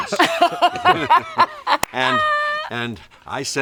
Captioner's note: all laughing